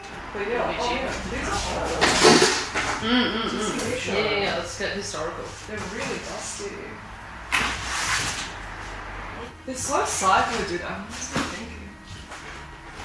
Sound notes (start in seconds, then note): 2.0 object thuds; 7.6 object scraping